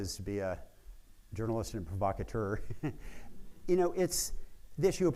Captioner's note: laughs